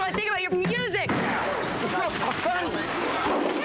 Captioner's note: smashing